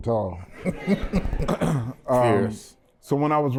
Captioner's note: laughter